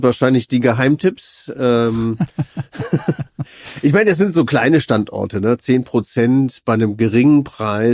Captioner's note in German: gelächter